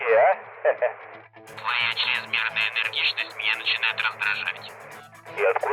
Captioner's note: in Russian